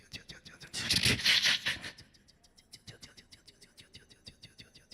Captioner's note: beatboxing